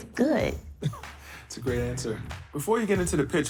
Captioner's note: chuckling